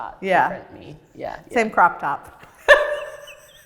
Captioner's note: laughs